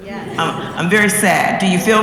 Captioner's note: laugh